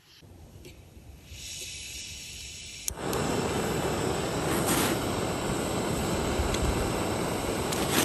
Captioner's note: sound of gas and igniting the stove